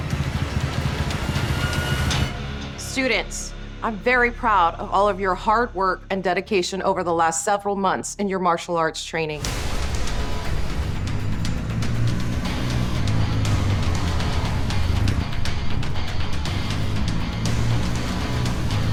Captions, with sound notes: - Students, I'm very proud of all of your hard work and dedication over the last several months in your martial arts training. (slow rock music) (motorcycle engine revs)